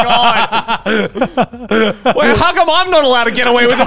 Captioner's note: laughing